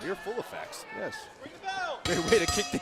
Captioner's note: bell ringing